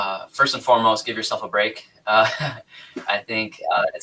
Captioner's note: laughs